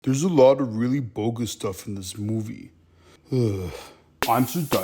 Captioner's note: sigh